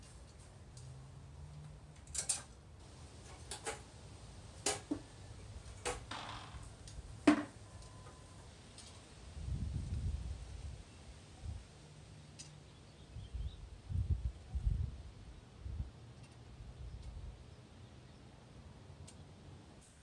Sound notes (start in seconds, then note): 2.0 click; 3.3 clanking; 6.9 thud; 8.7 wind with the occasional clothes hanger rattle